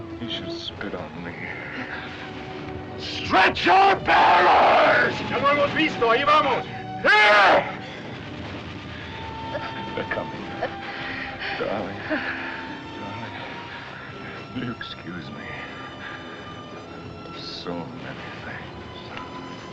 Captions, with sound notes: You should spit on me. Stretcher bearers! [ Man Speaking Spanish ] Here! They're coming. Darling. Darling. Will you excuse me... of so many things?